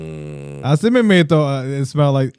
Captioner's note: speaking Spanish